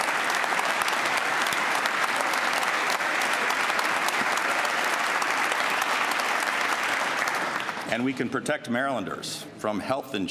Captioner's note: applause